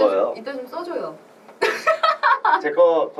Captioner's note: laughs